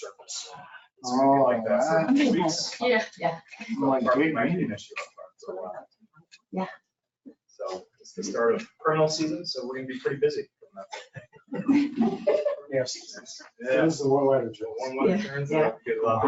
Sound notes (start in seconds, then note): 11.4 people chuckle